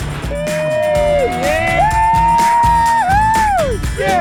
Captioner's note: cheers